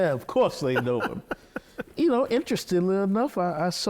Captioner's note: laughing